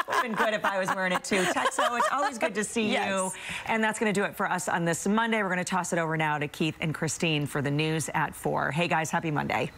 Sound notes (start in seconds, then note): 3.1 laughter